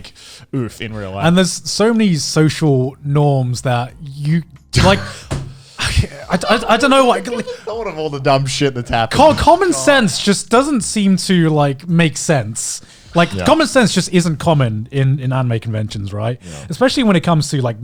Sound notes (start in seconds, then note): 3.4 laughing